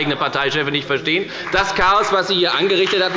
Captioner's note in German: Beifall bei der FDP – Widerspruch bei der CDU